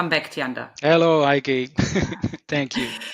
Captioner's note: chuckles